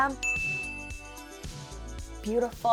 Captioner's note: bell ringing